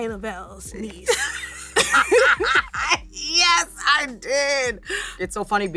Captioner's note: laughs